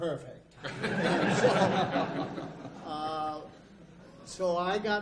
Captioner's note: audience laughs